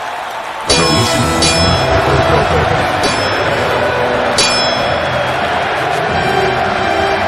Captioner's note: grand orchestral music; swords clanging